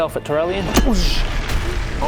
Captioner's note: boosh!